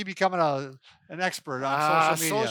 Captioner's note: exclaims